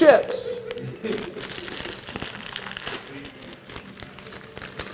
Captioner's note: bag crunching